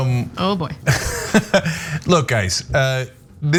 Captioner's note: laugh